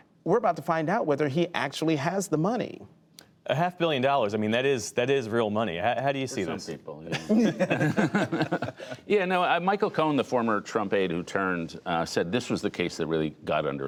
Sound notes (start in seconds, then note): 7.1 laughter